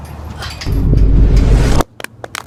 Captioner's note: reverse vine boom